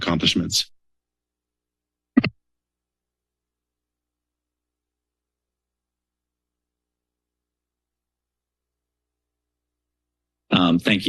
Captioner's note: silence